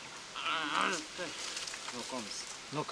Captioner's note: groans